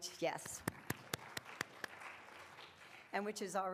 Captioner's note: and audience clapping